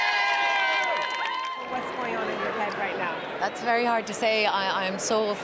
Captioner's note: cheering